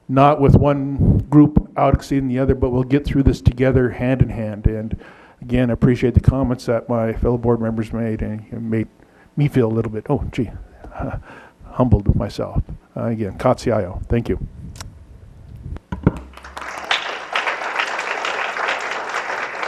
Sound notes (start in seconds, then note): 16.2 applause